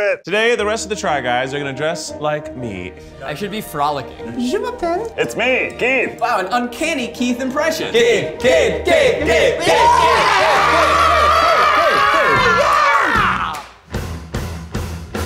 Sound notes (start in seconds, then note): 8.9 celebratory screaming; 12.5 upbeat music